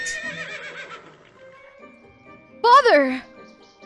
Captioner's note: horse neighs